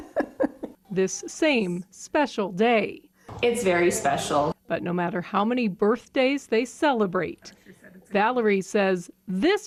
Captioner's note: nats laughter